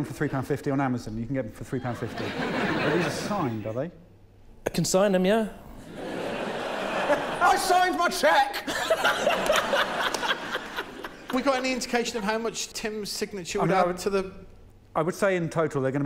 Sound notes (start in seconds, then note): 10.8 laughter